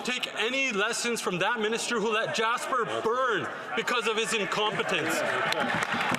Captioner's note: some Applause